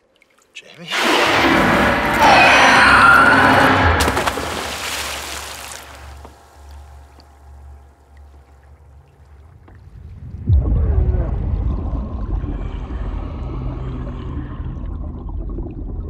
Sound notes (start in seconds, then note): 0.9 screeches; 3.3 water splashes; 11.3 suspenseful music